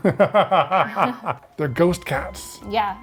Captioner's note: laughing